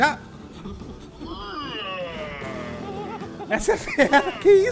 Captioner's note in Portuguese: rugido